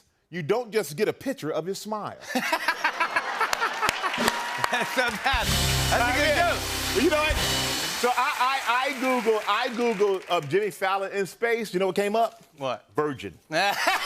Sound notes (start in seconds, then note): 2.3 laughter and applause